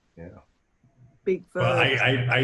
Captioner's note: laughing